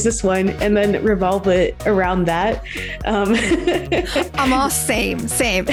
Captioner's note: laughs